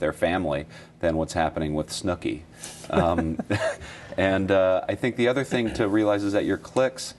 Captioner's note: laughter